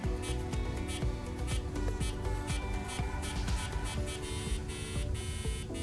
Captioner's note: increasingly paced AdaFruit beeps